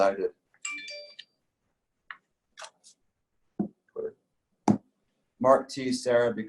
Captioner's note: phone notification sound